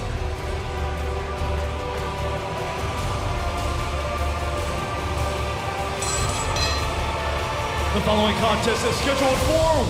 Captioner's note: bell ringing